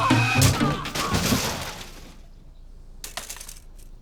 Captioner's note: Farance screams; bike crashes loudly